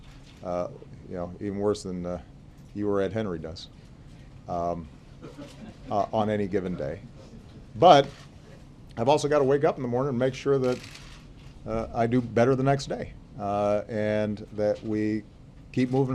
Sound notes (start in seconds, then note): 5.2 laughter